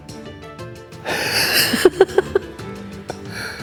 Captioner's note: laughing at how ridiculous this project is